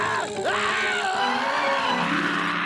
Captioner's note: screaming